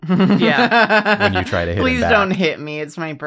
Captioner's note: laughs